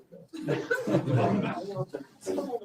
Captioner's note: laughter